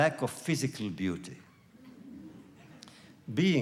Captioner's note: laughter